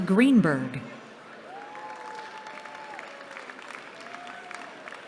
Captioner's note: applause